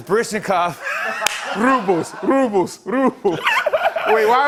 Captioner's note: laughter